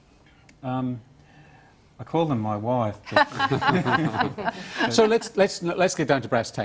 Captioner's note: laughter